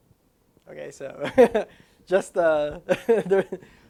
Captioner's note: laughs